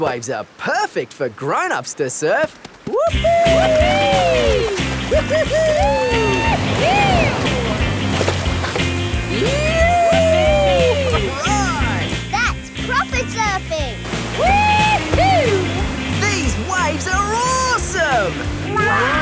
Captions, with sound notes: These waves are perfect for grown-ups to surf! (BOTH WHOOPING) All right! That's proper surfing. Whee-hoo! These waves are awesome!